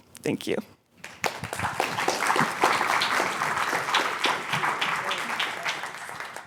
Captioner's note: applause